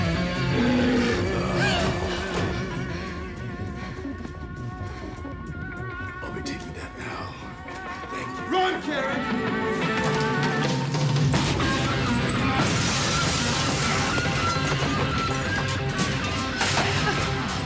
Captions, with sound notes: (roars) (gasps) - I'll be taking that now, thank you. - Run, Karen! (dramatic rock music) (glass smashes)